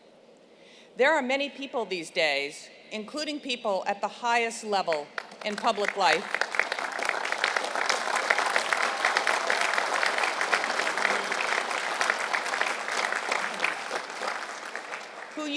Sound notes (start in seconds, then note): 8.2 applause